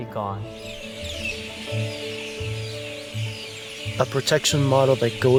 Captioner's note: birds chirping